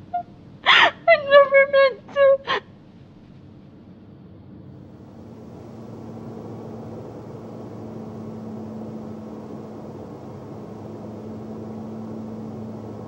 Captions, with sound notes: I never meant to. [car engine]